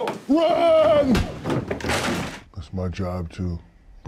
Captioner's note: objects crashing to floor